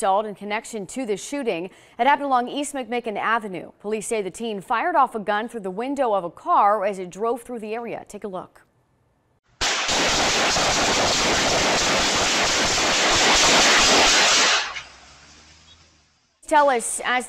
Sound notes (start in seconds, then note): 12.5 five seconds of gunshots; 16.1 five seconds of gunshots